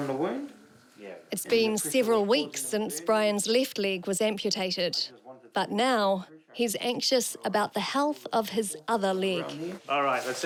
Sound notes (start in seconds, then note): none